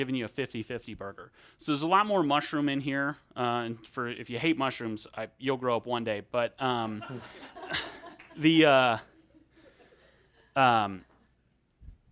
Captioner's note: audience chuckles